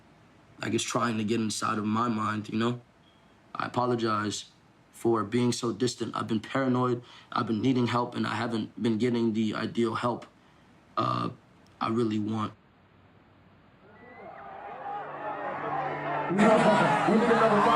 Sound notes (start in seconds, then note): 13.8 crowd cheering